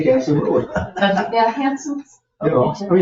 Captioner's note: people chuckle